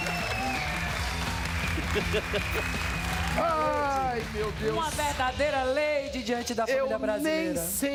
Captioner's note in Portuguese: risos